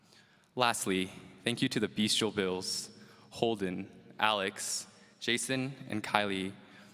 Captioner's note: none